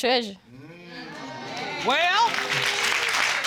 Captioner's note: audience exclaim and applaud